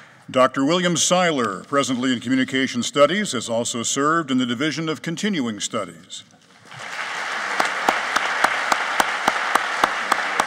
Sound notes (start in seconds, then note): 6.6 applauding